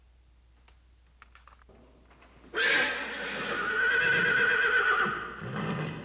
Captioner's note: whinnying